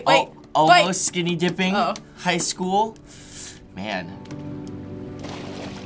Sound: sucks breath

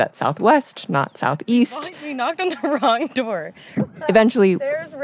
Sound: laughingly

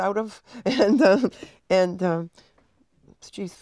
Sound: chuckling

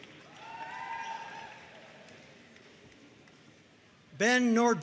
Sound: audience cheering and applauding

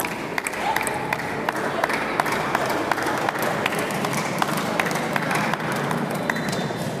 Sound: applause

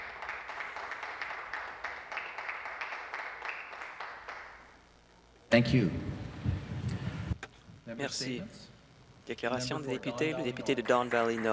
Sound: some Applause

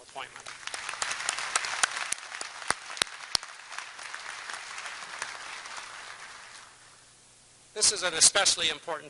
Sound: applause

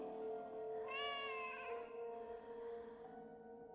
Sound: cat meows

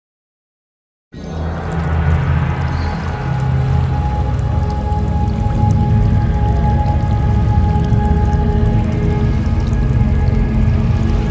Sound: sound of water fantasy

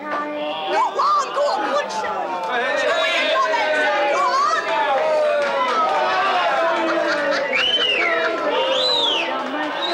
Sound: crowd cheer

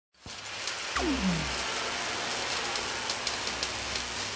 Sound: sound effects playing

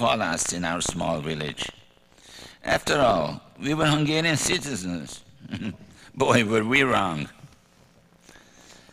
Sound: laughs

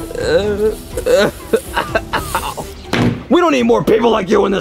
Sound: groaning; Mario coughs

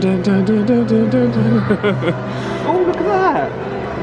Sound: laughs

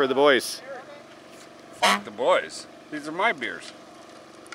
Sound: honk

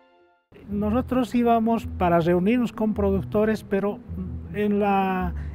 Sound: speaking in foreign language

